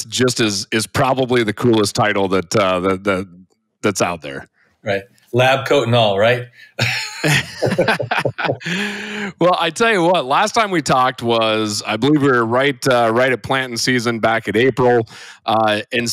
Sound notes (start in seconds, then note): 6.8 both laugh